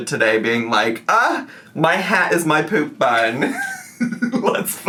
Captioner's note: laughs